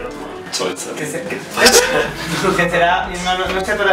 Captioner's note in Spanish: risas